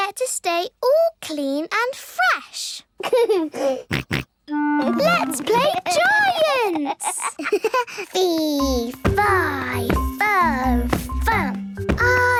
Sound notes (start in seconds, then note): 3.0 giggles, snorts; 6.6 giggles